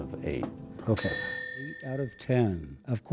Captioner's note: bell ringing